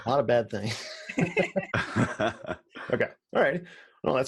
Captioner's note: everyone laughs